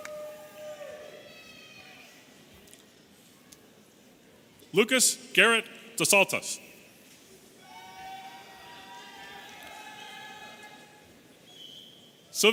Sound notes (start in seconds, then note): 7.6 audience cheering